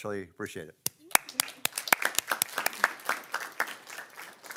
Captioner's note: everyone claps